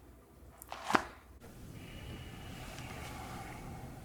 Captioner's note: folder thuds